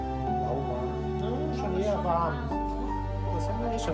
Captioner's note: chattering